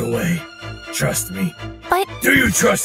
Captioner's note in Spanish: none